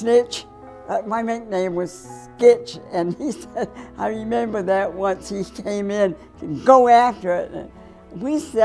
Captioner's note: laughter